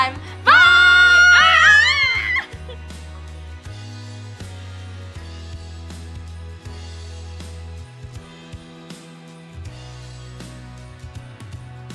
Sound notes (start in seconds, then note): 1.7 yelling; 3.4 lively music